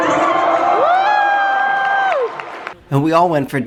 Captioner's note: crowd cheers very loud